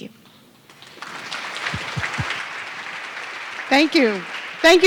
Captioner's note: audience clapping